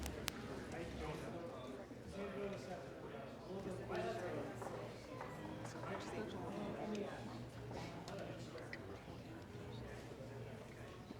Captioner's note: indistinct chatter